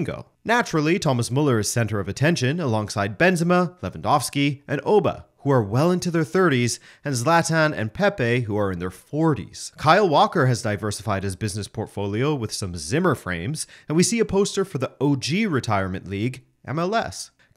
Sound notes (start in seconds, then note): none